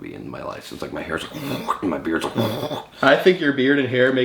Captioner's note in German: grunzt